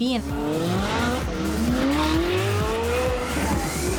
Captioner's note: engines roaring